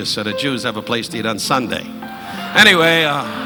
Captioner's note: audience laughing